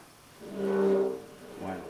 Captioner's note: metal chair scraping on the ground; Spanish